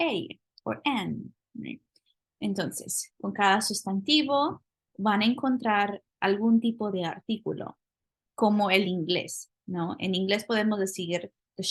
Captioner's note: speaking spanish